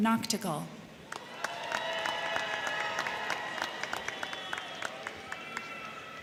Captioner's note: crowd cheering; crowd clapping